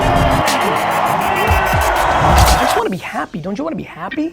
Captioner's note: audience cheering